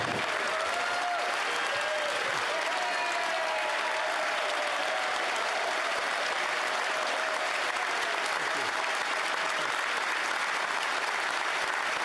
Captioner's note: applause